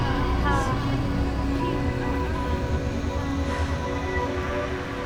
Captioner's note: chanting continues; light music